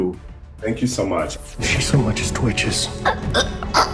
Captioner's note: choking